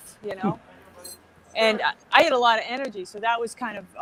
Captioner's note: laughs